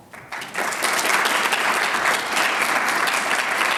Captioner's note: audience claps